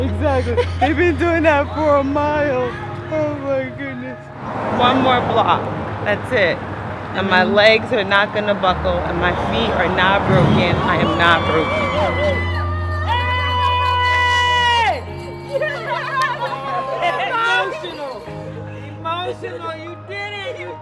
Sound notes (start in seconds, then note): 17.5 crowd cheering